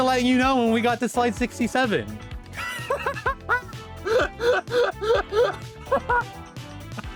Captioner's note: laughing so hard I'm not breathing